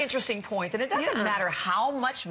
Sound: laughter

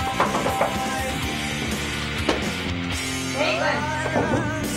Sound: door knocking

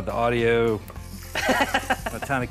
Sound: laughing

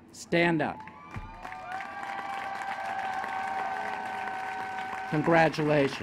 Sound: applause and cheering

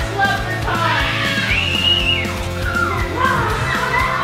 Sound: screams

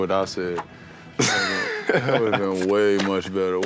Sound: giggles

